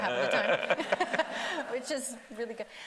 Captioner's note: everybody laughing